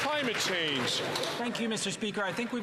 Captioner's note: some Applause